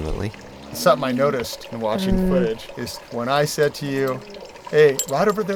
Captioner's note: Llama Humming